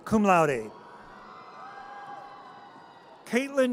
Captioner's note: audience cheers